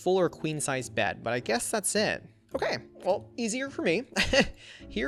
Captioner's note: laughs